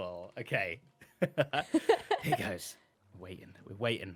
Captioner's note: laughs